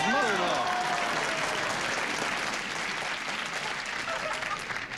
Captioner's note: cheers and applause